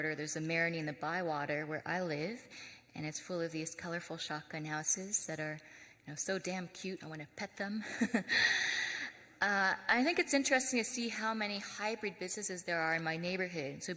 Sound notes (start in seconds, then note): 5.5 laughs